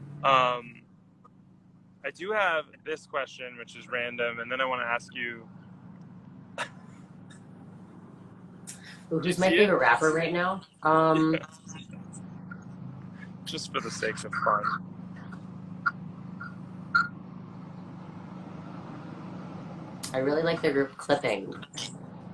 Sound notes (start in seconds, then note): 6.5 laughs